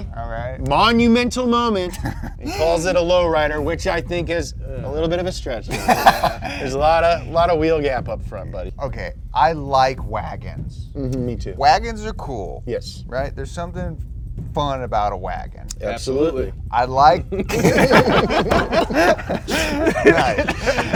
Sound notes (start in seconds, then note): 1.8 chuckles; 5.7 laughing; 17.3 all laughing